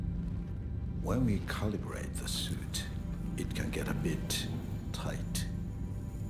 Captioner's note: none